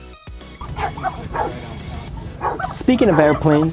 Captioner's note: dogs barking